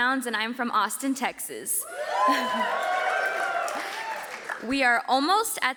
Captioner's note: audience cheers